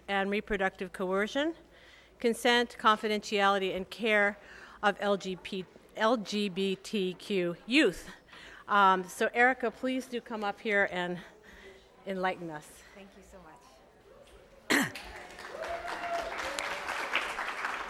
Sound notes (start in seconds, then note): 14.9 applause